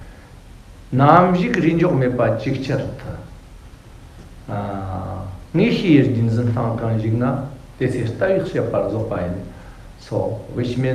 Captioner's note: tibetan